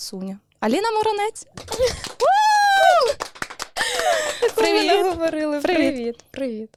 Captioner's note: clapping